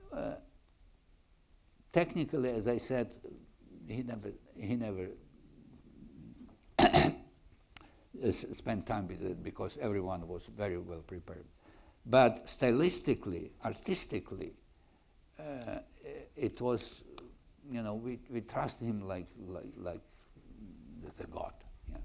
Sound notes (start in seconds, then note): 6.8 clears throat